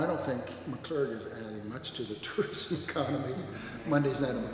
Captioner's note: laughs